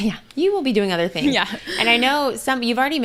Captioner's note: laughs